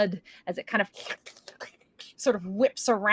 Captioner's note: imitates slurping